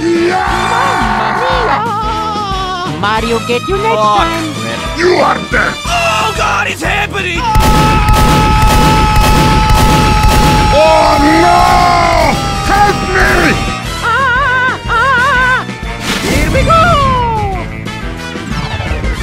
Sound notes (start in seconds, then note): 7.5 pow Pow